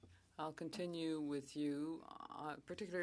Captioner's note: speaking French